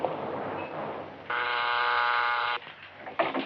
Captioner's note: intercom buzzing